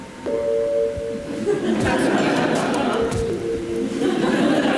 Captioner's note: audience laughs